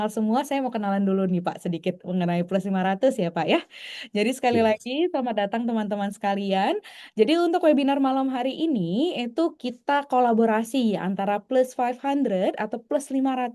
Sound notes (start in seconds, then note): none